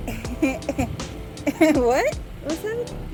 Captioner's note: laughs